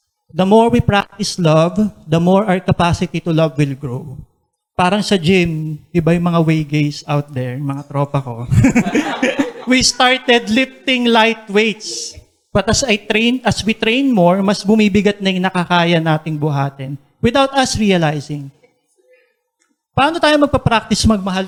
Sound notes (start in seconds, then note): 8.5 laughter